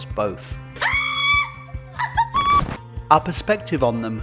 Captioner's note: squealing